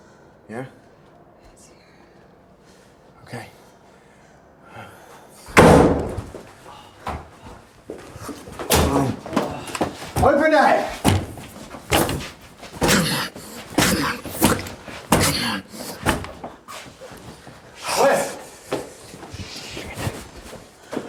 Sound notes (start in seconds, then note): 5.6 door bangs; 12.8 Wes grunting